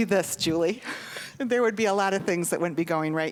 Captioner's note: chuckling